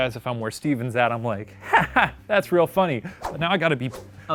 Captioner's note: laughs